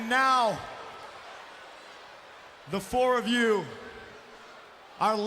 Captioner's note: none